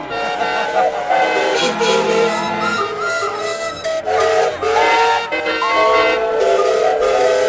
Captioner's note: laughter and a chorus of whistles ring out